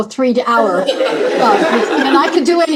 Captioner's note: laughter